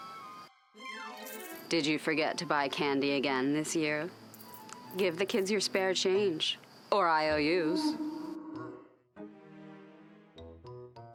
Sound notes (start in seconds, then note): 1.2 sound of coins jingling; 7.8 werewolf growls